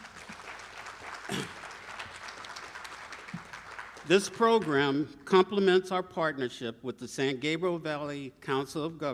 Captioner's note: applause